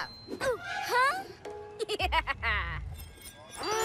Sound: evil laugh

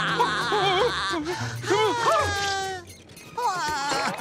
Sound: laughing; gasping; laughing

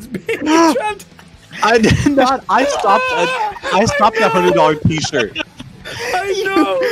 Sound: all crying laughing

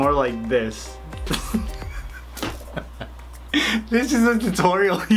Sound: laughs

